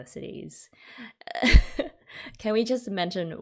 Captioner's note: laughs